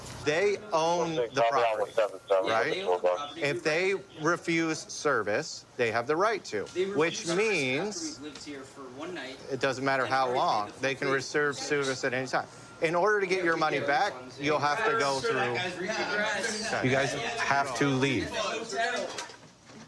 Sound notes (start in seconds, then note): 15.4 arguing